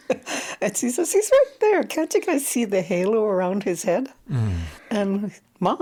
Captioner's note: laughs